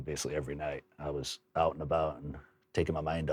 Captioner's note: none